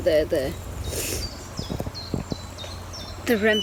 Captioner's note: birds chirping